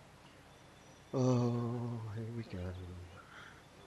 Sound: worried sounding groaning noise

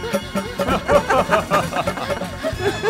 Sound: laughs

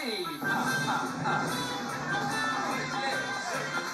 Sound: laughs

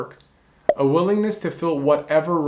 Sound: bubble popping

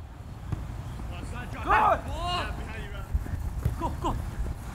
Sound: players yelling

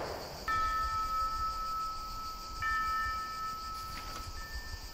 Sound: funeral bells

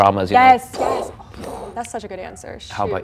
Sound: mimics explosion

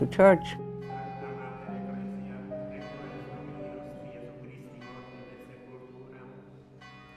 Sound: soft music; church bell rings

